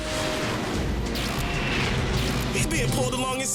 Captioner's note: jets rumble as they maneuver